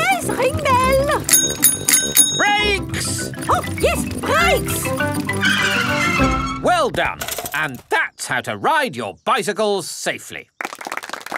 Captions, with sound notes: Oh, yes. Ring bell. -(RINGS BELL) -Brakes! Oh, yes. Brakes. (TIRES SCREECH) Well done! And that's how to ride your bicycles safely!